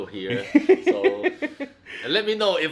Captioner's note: laughing